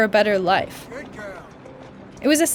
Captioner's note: soundbite of archived recording